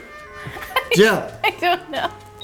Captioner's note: laughs